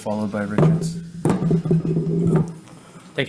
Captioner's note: loud thump